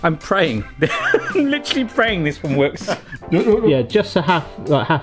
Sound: laughs

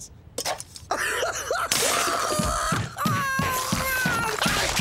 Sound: sobbing

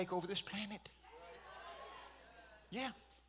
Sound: congregation shouting

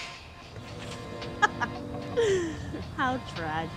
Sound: Louise laughs at Bird

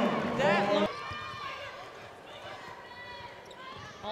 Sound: crowd cheering

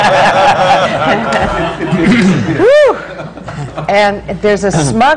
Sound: laughter

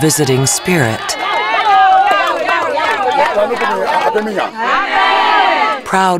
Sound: clapping, celebrating

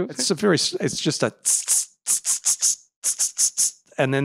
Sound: mimicking call

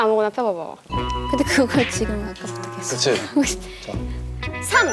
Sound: 3 / Attacking with fact in a quiet voice

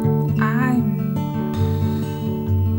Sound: exhales

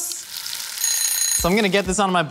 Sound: timer ringing

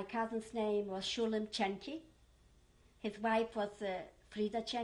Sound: german; german

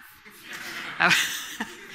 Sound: laughter from the audience

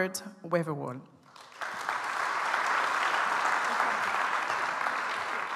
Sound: audience applauds

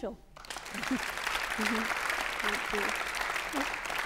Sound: applause

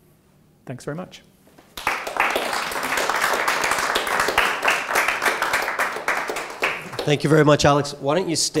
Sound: applause

